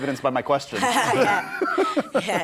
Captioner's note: laughter